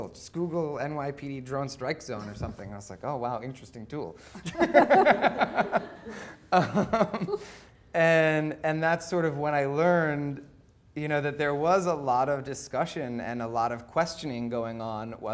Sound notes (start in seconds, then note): 4.4 laughing